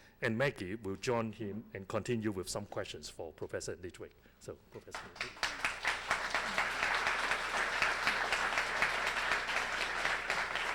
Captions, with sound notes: and Maggie will join him and continue with some questions for Professor Litwack. So, Professor Litwack? [APPLAUSE]